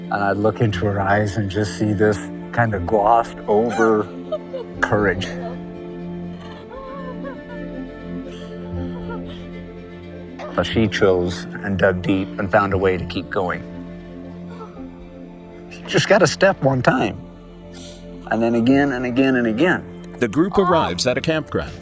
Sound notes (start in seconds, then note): 6.2 crying